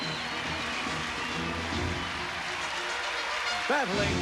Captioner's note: cheers and applause